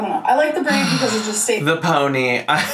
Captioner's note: sighs